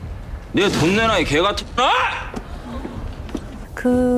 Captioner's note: shouts